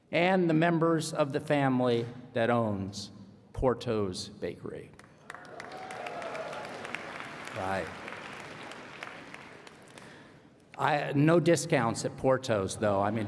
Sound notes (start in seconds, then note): 5.0 applause